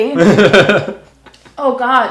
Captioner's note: laughing